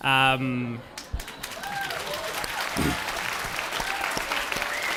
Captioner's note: applause and cheering